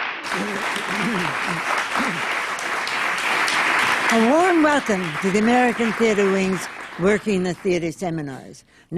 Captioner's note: applause